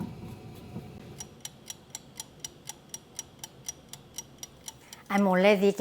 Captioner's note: timer ticking